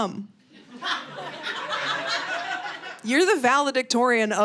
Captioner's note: audience laughing